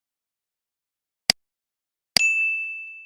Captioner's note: button clicks; bell rings